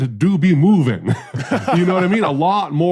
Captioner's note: laughs